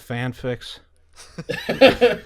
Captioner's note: laughter